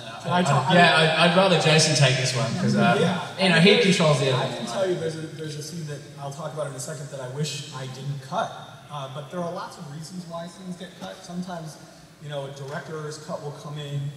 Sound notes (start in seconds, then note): none